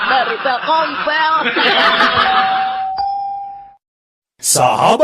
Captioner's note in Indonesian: tertawa